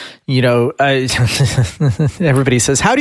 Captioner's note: laughs